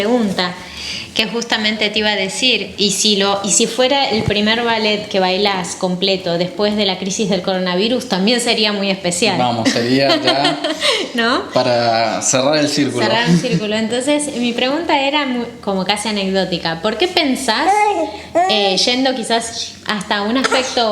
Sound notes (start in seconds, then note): 13.1 laughs